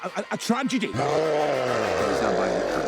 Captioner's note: Loki growls